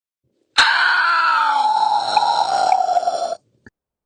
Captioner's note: eagle screeching